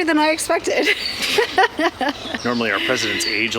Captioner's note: laughs